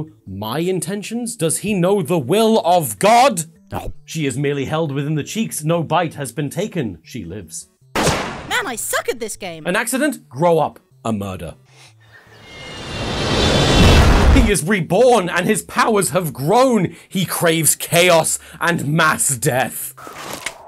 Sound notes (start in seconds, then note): 7.9 gunshot; 12.3 plane engine getting closer; 12.4 crash